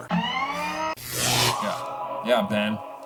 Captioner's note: mechanical noises